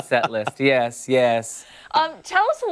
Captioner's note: laughter